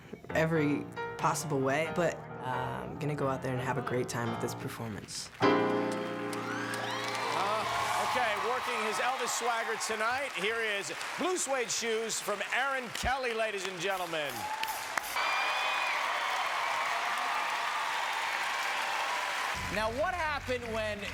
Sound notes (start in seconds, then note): 8.9 cheers and applause